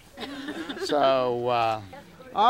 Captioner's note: group laughter